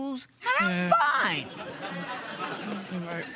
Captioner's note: laughter